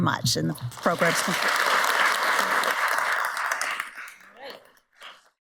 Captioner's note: audience applauds